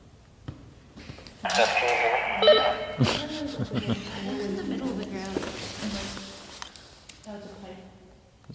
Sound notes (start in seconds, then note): 1.1 on walkie-talkie; 2.9 laughs